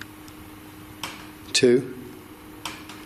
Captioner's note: soft tapping